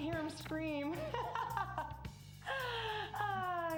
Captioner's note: laughing